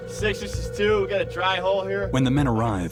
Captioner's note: voiceover; marine on radio; voiceover